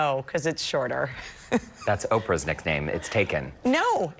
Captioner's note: laughter